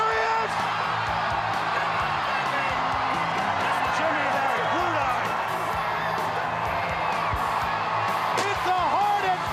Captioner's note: crowd chatter; crowd chatter